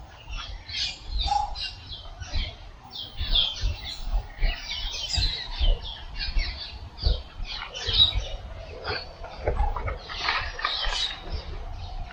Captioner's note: birds chirping